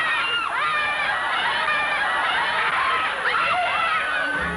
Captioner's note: screaming